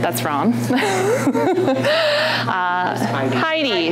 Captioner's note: laughing